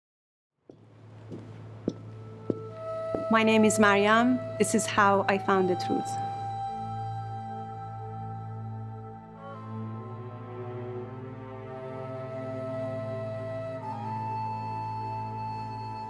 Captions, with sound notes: (heels clattering) - My name is Maryam. This is how I found the truth. (soft music)